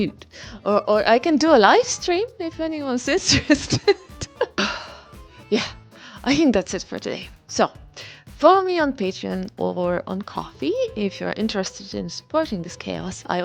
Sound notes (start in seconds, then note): 3.8 laughs; 4.6 sighs like an old woman that she is